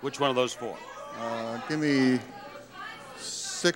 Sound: audience clamoring

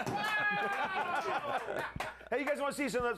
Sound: laughter

